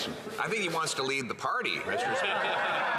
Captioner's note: some Applause